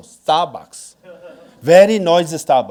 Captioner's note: audience laughing